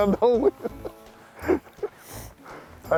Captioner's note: laughs